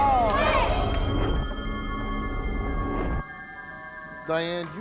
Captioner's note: eerie chiming